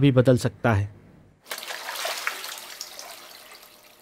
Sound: water splashes on face

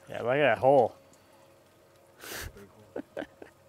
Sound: laughs

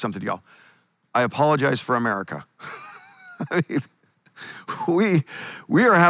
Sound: laughs

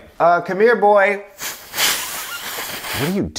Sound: whistling

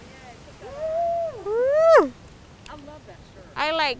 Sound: cheering

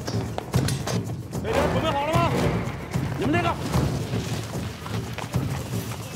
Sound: dramatic music; soldier speaks in foreign language

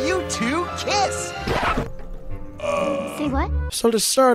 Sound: record scratch

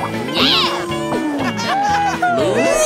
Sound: laughing

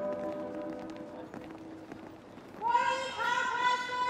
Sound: footsteps patter

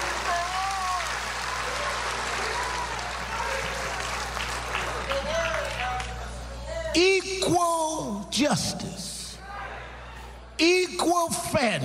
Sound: cheers and applause

